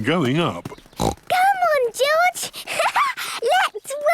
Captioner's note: snorts; laughs